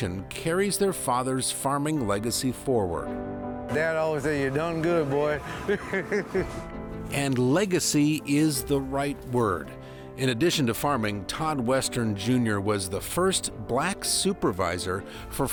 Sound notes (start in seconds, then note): 6.4 chuckles